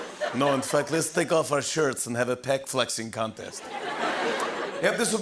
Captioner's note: laughter